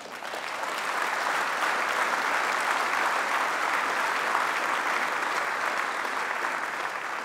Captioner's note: applause